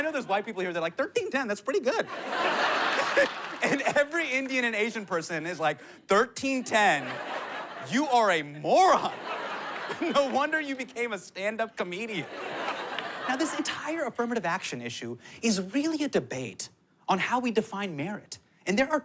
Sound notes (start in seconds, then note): 2.0 laughs